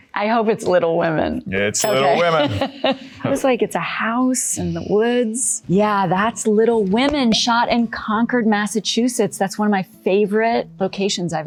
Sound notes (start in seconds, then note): 2.2 laughing